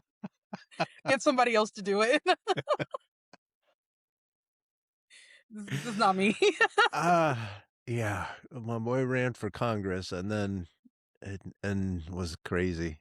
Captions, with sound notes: I have somebody else to do it. (Laughs) This is not me. Yeah, my boy ran for Congress and was crazy.